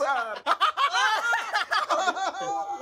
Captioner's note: employees laugh